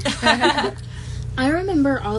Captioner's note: we all giggle